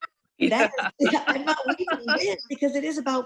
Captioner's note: laughing